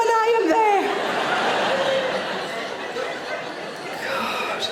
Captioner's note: audience laughing